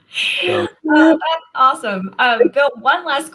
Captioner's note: laughter